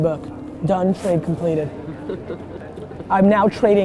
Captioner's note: laughs